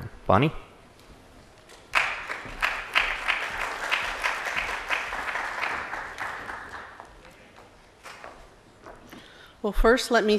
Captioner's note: applause